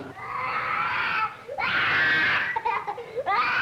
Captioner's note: crying